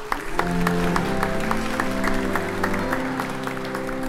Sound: audience applauds

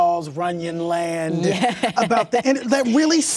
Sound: laughs

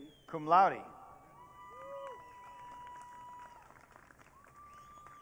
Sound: audience cheering

